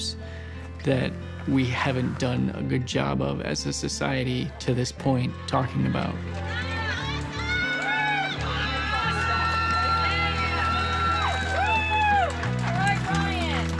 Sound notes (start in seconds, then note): 7.0 people cheering